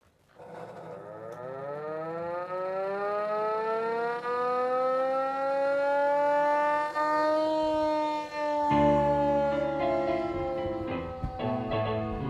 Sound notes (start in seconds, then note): 0.5 siren blaring; 9.1 upbeat music plays